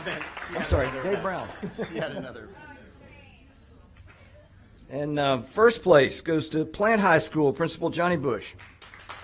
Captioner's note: applause